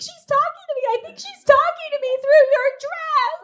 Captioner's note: increasingly emotional